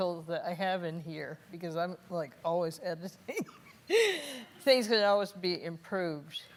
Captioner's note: laughing